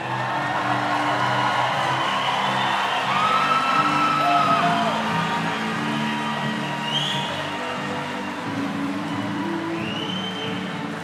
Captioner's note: crowd conversing and cheering